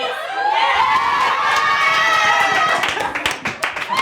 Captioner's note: team cheering